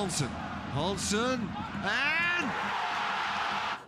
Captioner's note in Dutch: gejuich